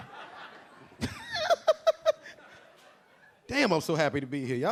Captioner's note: a few audience members laughing; LilRel laughing